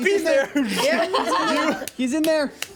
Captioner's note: everyone laughs